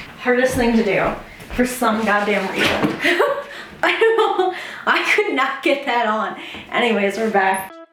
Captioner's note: laughs